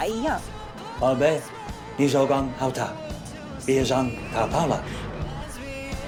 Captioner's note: Heinz speaking foreign language